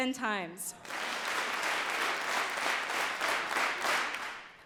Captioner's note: audience claps